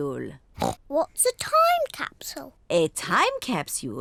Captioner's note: oinks